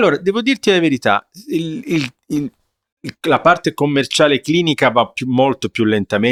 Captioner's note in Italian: sbuffare; schiarire la voce